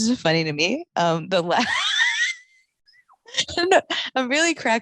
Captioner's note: laughing